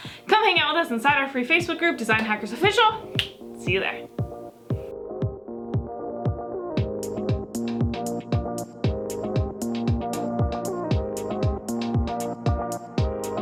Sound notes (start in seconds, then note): 3.1 snapping fingers; 4.4 upbeat music